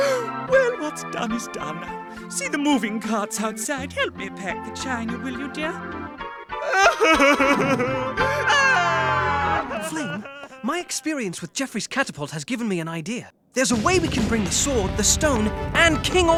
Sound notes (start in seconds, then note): 6.6 sobbing